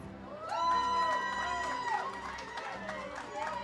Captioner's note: audience cheers